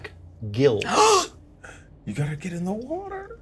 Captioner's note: Evelyn gasps